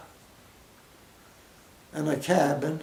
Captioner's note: pause